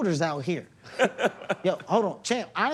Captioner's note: laughs